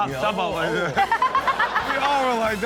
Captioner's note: Chanel and audience laugh